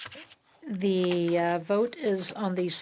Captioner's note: speaking French